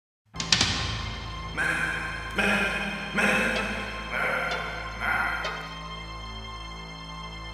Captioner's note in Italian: voce pensiero